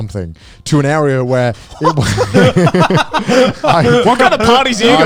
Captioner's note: laugh